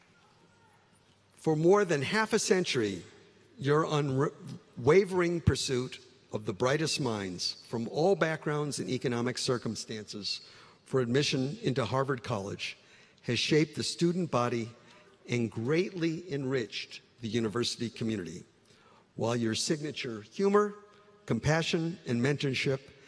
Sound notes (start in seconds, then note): 1.1 applause